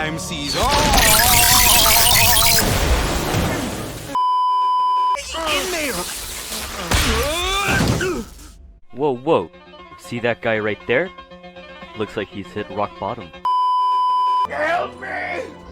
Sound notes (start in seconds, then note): 0.5 electocuted noises; 1.7 sample noises; 2.5 arrow explosion; 4.2 beeeeeeeeeeeep; 7.6 bodies hitting the floor; 13.4 beeeeeeeeeeeep